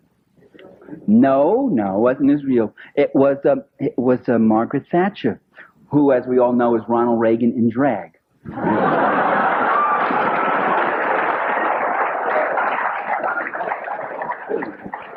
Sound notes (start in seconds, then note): 8.4 laughter